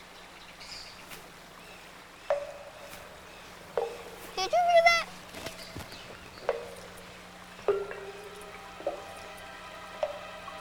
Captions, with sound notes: (Sound of Water Dripping) DID YOU HEAR THAT? (Sound of Water Dripping)